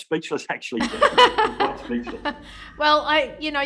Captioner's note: soft laughter